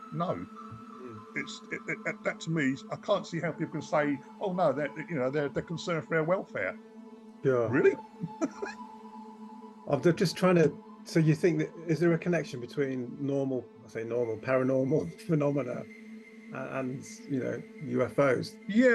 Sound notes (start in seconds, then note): 8.2 laughing